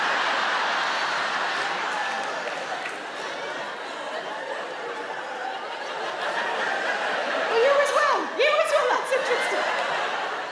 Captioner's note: audience laughs